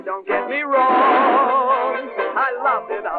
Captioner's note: gunshot